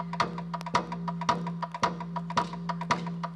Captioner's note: none